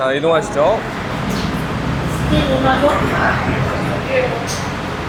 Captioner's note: car coming from parking lot